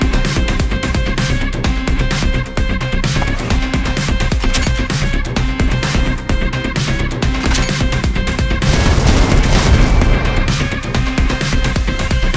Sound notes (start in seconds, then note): 8.6 explosion